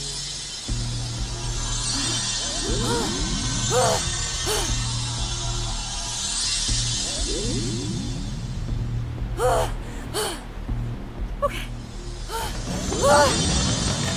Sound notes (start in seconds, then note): 2.4 grunting; 9.4 panting; 12.9 grunting